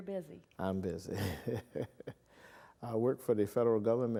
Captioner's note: laughs